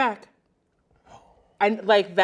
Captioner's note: exclaims softly